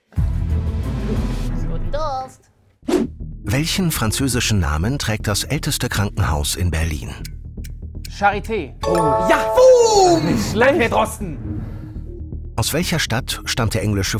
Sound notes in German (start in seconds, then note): 8.7 Klingeln